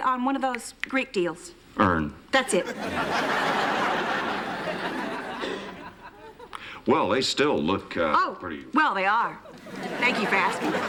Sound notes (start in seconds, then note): 2.5 laughter